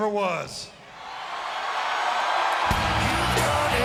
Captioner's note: audience cheering